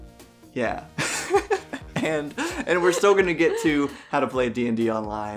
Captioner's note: both laugh